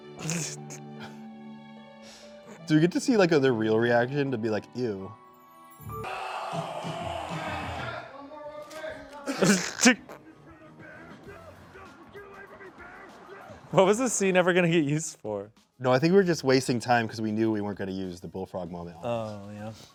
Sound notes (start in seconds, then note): 6.1 man yelling; 9.3 snickering